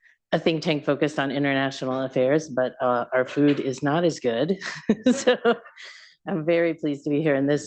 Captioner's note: laughs